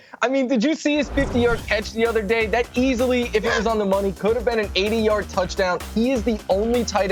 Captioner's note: laughter